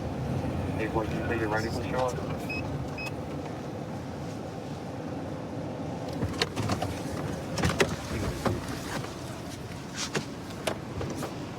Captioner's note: indistinct dispatch speech